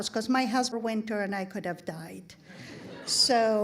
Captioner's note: audience laughing